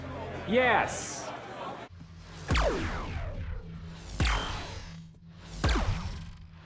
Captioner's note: system whirs